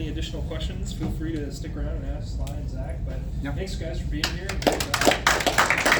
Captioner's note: applause